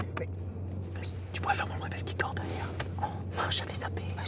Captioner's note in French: chuchotements